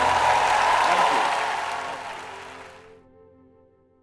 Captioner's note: applause